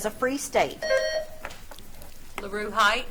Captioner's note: buzzer trills